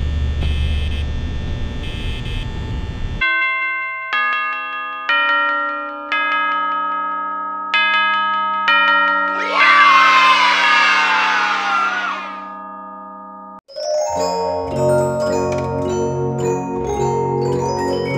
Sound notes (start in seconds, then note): 3.2 bell Rings; 9.2 kids Cheering